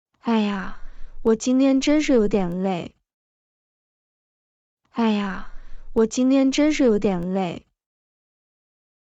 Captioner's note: sigh